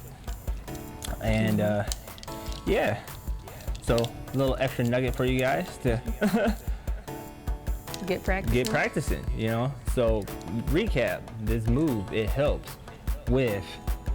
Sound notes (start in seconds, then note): 5.8 laughs